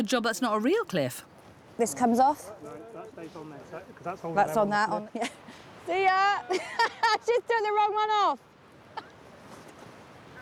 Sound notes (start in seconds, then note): 6.4 laughs